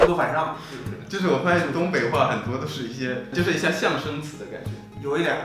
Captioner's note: imitation of sounds